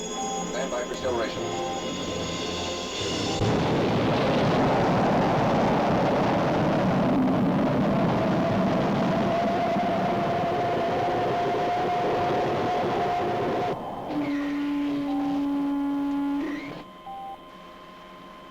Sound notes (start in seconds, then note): 3.4 engines firing; 14.1 loud mechanical sound; 17.0 beeping sound